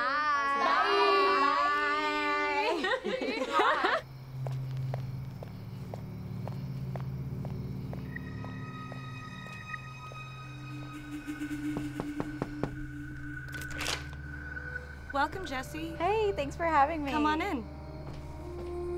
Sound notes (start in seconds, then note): 2.6 laughter